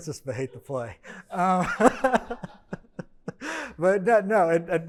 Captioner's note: laughs; attendees laughing